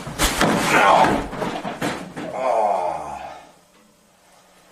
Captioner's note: thud